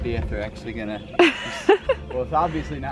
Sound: laughs

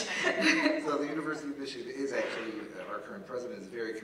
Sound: laugh

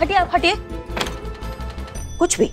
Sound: closet door closed

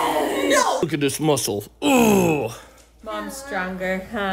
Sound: grunts

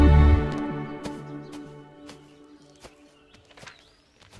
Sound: footsteps

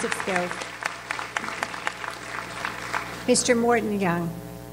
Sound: audience applauds

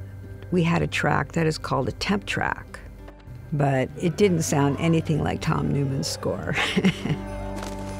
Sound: laughs

